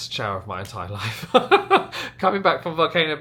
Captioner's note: laughs